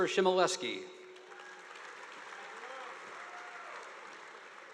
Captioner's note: audience applauding